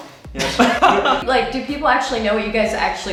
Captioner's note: laughing